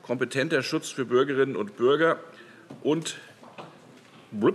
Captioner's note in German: none